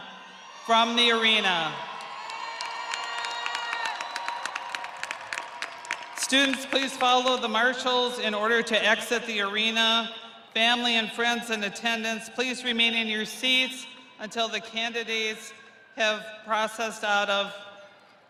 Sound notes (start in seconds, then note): 5.9 audience applauding; 5.9 audience cheering